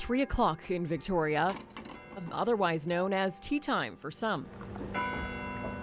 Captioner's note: bells tolling